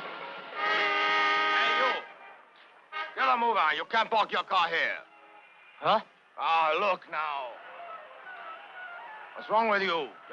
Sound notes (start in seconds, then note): 0.6 car horn honks